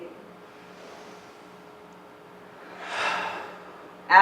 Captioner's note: exhales; inhales